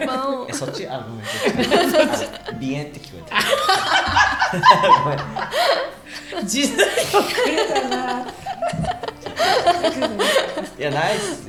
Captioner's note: laughs